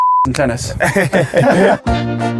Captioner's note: laughs